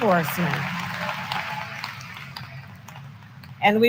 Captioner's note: applause